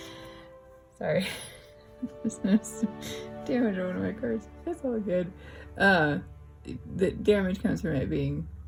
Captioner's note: laugh